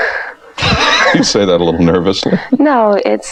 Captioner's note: laughing